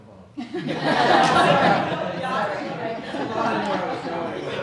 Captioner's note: audience laughs